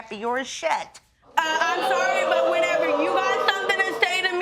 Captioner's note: audience react